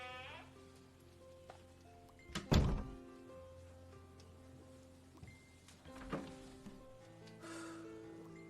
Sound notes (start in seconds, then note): 0.5 door creaks